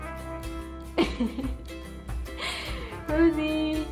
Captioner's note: laughing